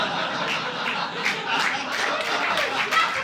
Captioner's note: audience laughing